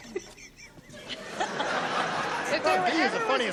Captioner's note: laughter